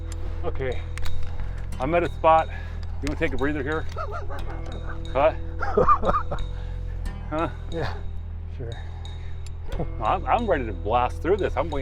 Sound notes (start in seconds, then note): 3.8 laughing